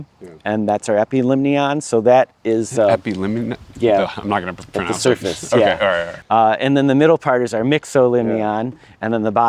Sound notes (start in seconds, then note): 3.1 stumbling verbally